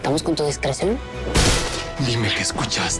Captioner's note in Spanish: Golpetazo